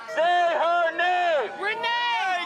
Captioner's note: shouting; crowd chanting